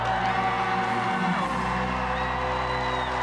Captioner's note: audience cheering and clapping